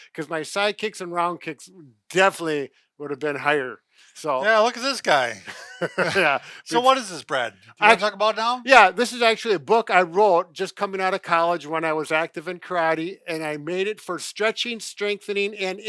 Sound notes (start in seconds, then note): 4.4 laughing